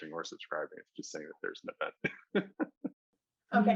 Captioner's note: chuckles